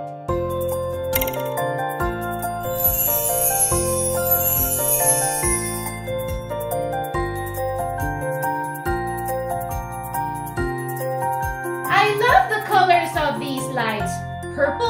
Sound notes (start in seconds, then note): 4.5 stars twinkling